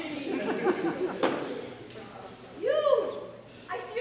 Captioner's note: audience laughs